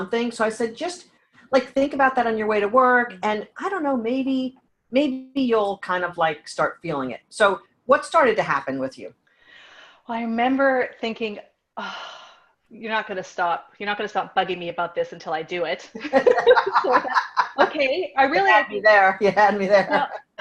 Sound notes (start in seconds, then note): 11.8 heavy sigh; 16.2 laughing